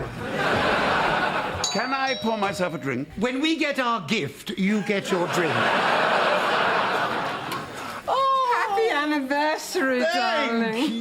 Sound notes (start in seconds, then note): 1.6 doorbell